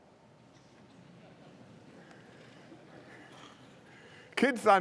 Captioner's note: laughter